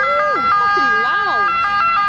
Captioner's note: beeping noise in background continues